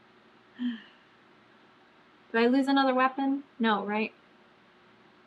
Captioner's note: sighs